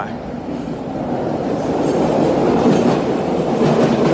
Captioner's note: train rumbling